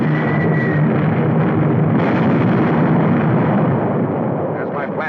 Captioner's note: explosion booming